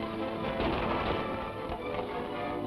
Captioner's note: table crashes; suspenseful music